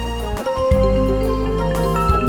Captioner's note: phone Ringing